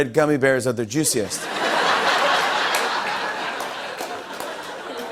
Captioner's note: laughter